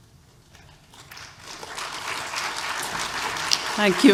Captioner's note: applause